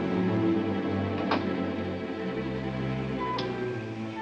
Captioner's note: ominous music; door cracks open